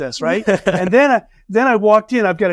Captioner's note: laughing